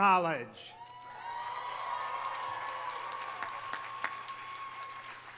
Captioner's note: audience applauding